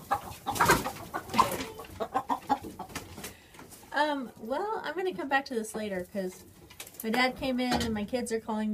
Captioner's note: laughs